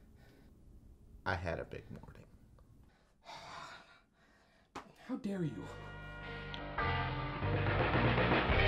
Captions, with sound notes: I had a big morning... (sigh)